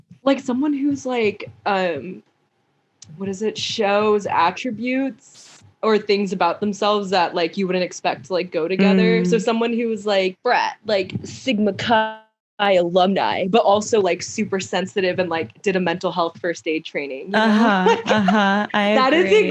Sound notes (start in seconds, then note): 10.5 in fratty voice; 17.4 laughs